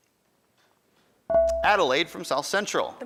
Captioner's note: buzzer dings